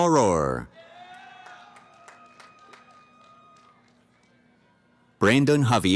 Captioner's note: cheering